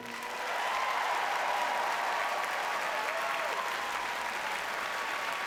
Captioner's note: audience cheers and applauds